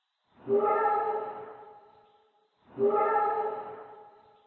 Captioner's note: creature barking